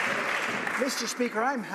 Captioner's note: some Applause